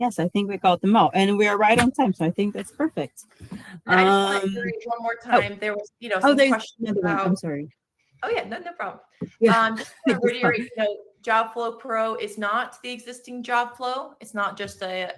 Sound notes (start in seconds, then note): 9.3 laughs